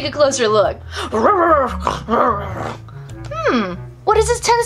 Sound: excited barking and growling

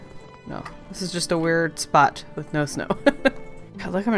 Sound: laughs

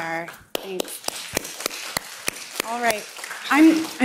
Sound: applause

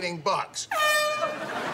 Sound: air horn sounding

